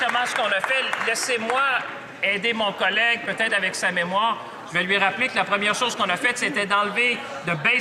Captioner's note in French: applaudissements